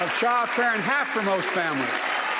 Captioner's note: applause